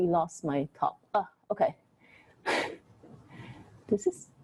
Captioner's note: chuckles